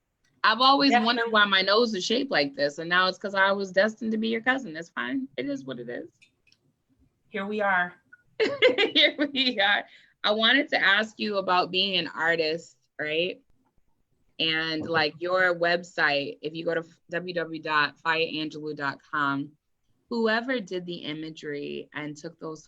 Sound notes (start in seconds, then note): 8.3 laughs